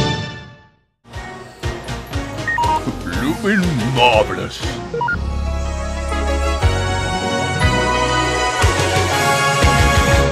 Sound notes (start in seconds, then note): 2.4 beeping